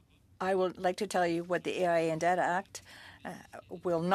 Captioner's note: speaking French